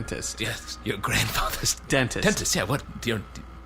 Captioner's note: flatly; stammering